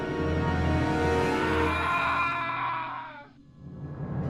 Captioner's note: Eddie screams; ominous music